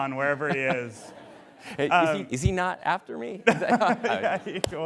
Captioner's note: laughter